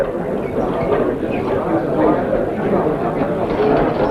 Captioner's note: men chattering